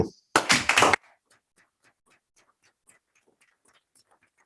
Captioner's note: group applauding